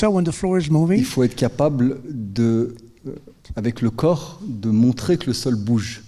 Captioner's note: speaking in French